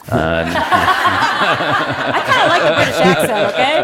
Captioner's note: Laughter; 笑聲